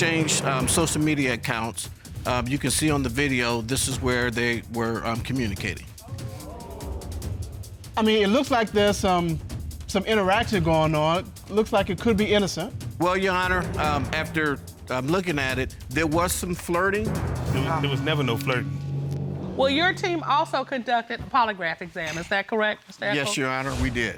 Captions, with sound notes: So once they exchange social media accounts, you can see on the video, this is where they were communicating. (AUDIENCE EXCLAIMING) I mean, it looks like there's some interaction going on, looks like it could be innocent. Well, Your Honor, after looking at it, there was some flirting. There was never no flirting. Well, your team also conducted a polygraph exam. Is that correct, Mr. Echols?